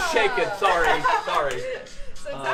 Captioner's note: laughing